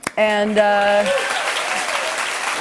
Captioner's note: applause